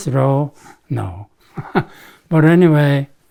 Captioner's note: laughs